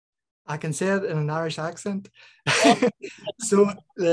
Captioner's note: laughs